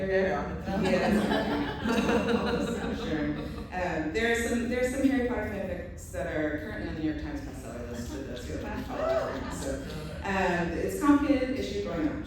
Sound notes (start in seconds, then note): 0.7 laughter; 8.8 a couple of woos